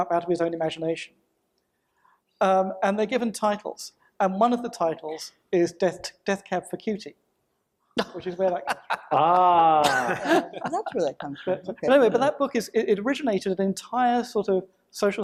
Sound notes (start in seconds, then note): 11.1 panel laughs